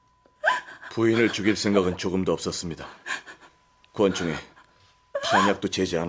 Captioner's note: laughter